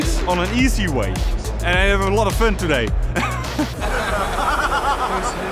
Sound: laughing

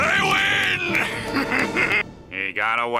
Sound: laughing

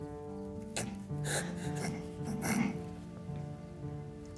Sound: crying

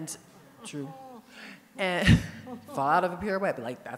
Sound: laughs

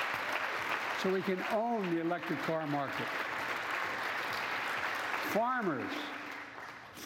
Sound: applause

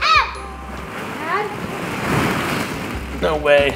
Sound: balls shuffle

